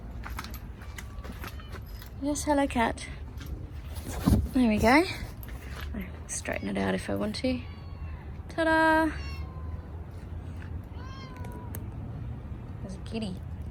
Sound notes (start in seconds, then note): 0.8 cat meows insistently; 9.1 cat meows more